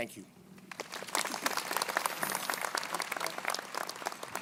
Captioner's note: crowd applauding